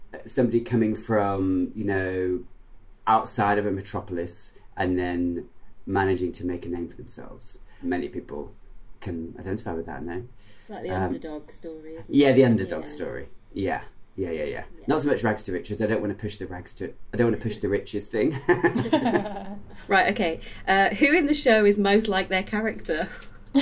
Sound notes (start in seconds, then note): 18.3 laughter